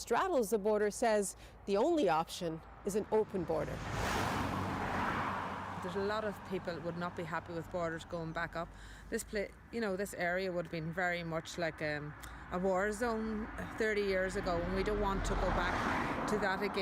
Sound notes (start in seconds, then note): 5.0 cars drive